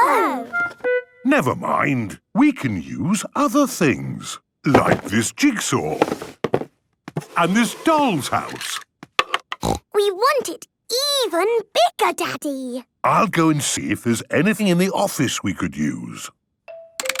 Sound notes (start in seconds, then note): 9.6 snorting